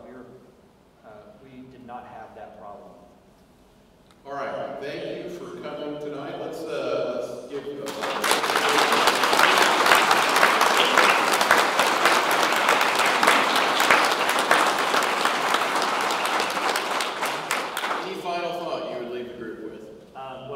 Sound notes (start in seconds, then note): 7.8 audience clapping